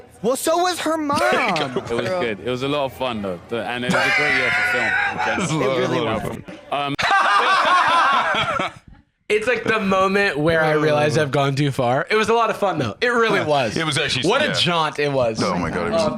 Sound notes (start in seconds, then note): 3.9 laughs; 7.0 both laughing